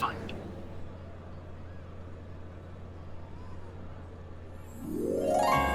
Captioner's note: pedestrians chattering; bright holiday music